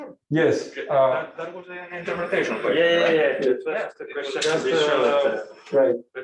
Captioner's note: murmured discussion